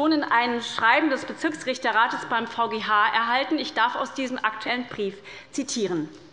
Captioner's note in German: none